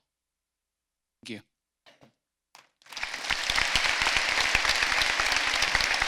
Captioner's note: applause